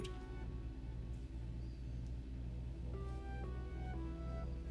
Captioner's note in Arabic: تدندن الآلة